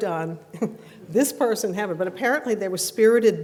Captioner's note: laughs